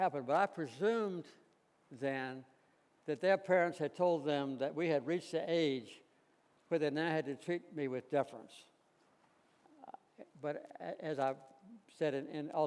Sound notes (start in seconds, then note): none